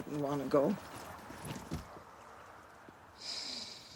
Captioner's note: sighs